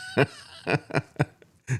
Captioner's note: laughing